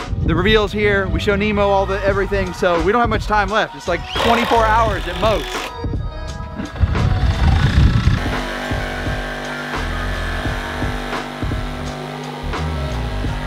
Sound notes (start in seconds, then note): 5.8 mellow hip-hop music; 6.6 machines whirring